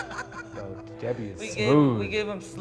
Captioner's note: both chuckling